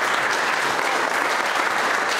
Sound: applause

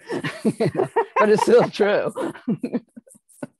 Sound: laughing

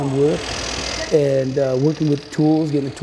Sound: saw cuts wood

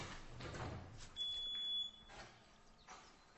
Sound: beeping sound

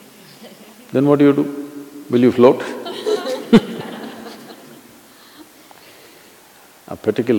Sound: laughter

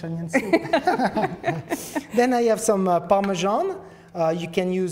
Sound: laughs

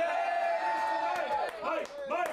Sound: audience cheering

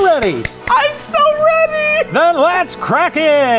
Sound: clapping

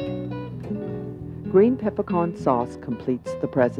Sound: voiceover

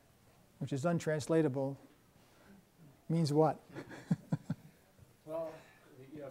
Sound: laughs

